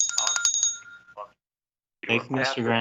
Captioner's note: bell ringing